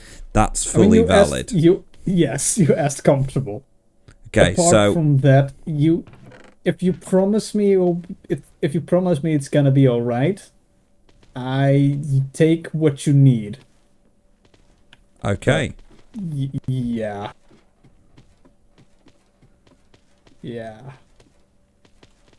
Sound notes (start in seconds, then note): 12.6 very hesitant